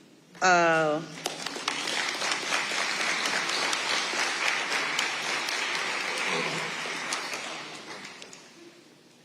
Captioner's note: audience applauding